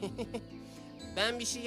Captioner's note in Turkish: Gülme sesi